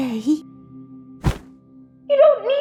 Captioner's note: thud